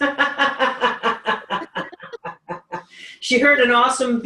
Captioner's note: laughs